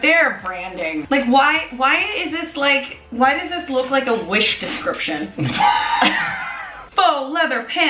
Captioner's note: laughing